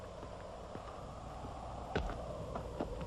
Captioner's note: footsteps